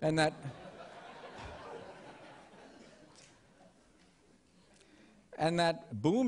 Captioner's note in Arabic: ضحك